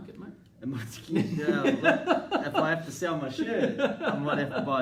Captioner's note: laughing